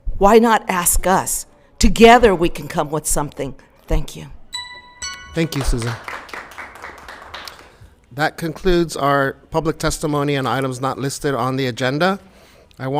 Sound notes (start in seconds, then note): 4.5 alarm chimes; 5.0 applause